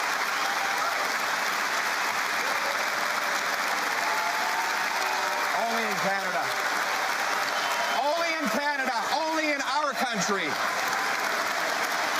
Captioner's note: cheering and APPLAUSE